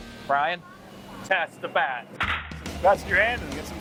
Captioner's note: bat cracking; voiceover